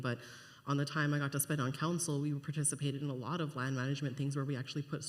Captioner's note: none